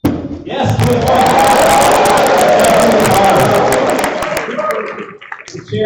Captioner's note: applause